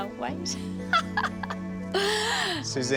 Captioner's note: Suzanne laughing